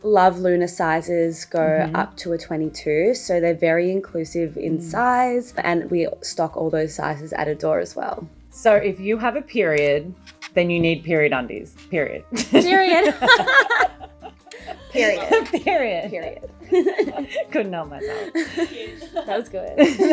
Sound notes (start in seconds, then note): 12.3 both laughing; 16.3 both chuckling